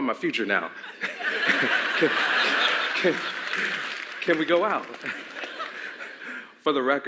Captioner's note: laughter